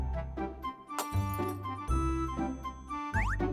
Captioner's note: crack!